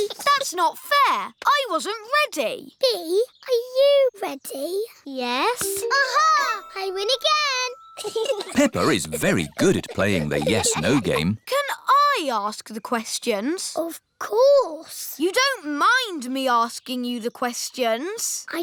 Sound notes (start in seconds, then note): 8.0 chuckles